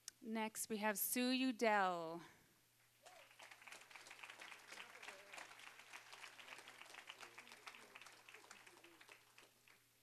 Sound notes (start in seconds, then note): 3.0 applause